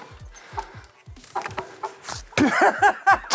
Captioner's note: thudding; laughter